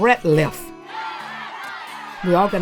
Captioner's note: crowd cheering